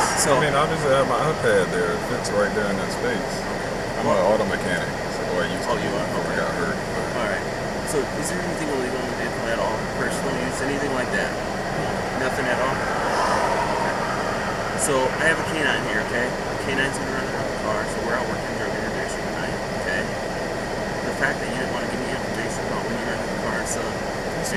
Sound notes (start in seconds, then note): 13.0 sighs